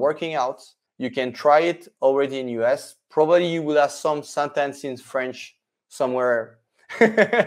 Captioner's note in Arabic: يضحك